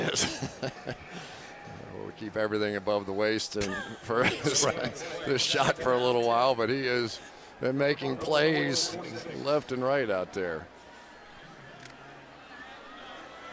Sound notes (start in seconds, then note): 0.0 laughs